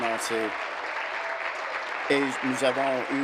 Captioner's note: applause